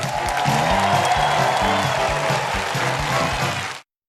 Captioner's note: cheers and applause